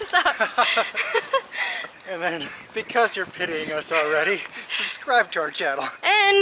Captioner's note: laughter